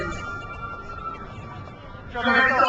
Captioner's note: crowd cheers